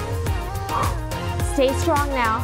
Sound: exhales

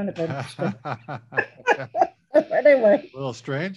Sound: both laugh

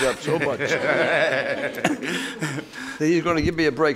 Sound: courtroom laughing

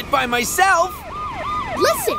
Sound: sirens blaring

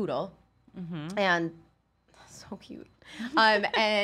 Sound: laughs

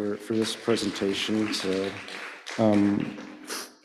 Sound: applause

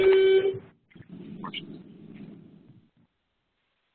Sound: loud beep

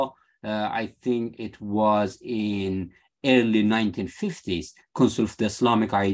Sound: speaking arabic

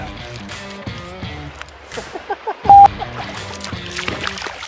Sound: laughing

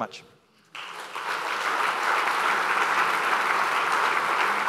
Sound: crowd applauding

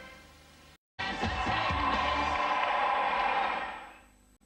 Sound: wild applause

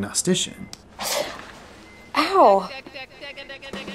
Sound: winces

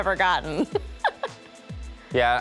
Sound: laughs

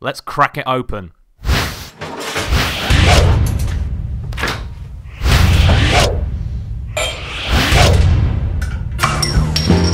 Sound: whooshing sounds; sexy Music

